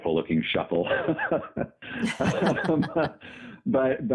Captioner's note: laughter